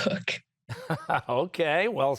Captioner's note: chuckling